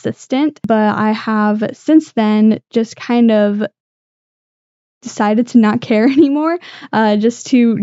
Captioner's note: laughter